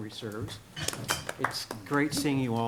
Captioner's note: applause